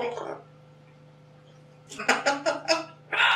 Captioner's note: laughing